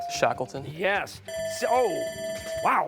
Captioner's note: bell ringing